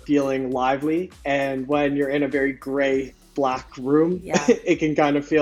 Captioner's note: chuckles